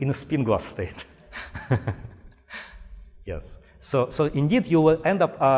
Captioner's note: chuckling